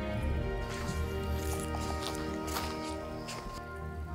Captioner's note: grass crunching